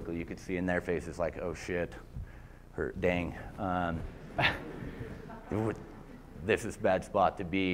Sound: laughter

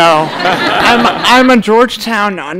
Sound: audience laughter

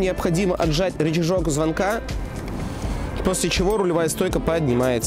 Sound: it rings the bell

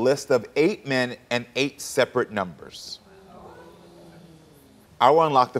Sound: audience oohing

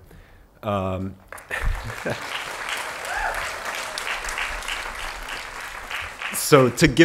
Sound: applause

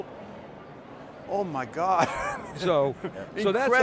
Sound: laughs

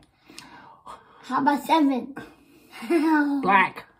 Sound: laughs

